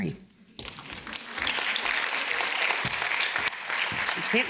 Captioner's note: audience claps